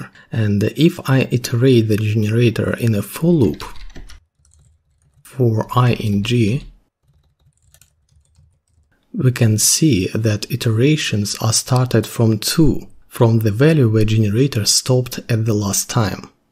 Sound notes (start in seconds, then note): 5.1 typing